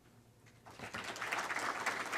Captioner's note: clapping